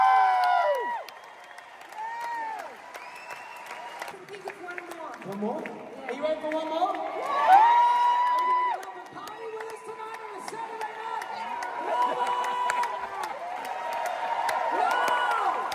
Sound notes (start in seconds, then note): 13.9 applause